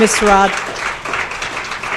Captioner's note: applause